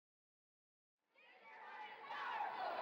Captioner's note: chanting